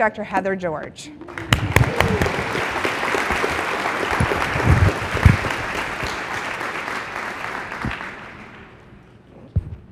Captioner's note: applause